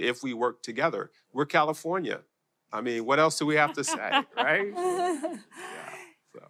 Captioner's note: laughter